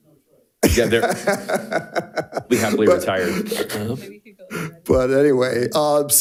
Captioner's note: speaks faintly; speaks faintly